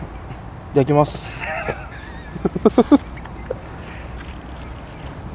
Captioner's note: laughs